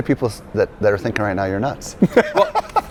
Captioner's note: laughs